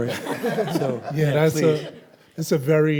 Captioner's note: audience laughs